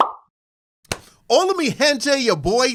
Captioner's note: speaking in foreign language